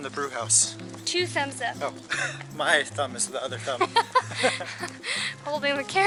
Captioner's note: laughter